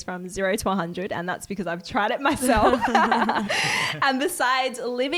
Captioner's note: laughs